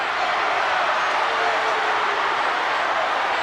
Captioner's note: crowd boos